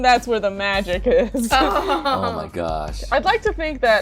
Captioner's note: laughter